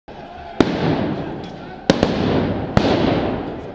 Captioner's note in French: Explosions répétées de pétards, mortiers, grenades de désencerclement